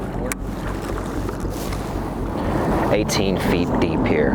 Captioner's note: water splashing